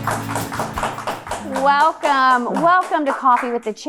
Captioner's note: upbeat music; audience applauding